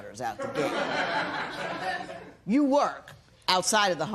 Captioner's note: laughter